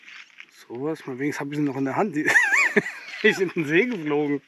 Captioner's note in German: gelächter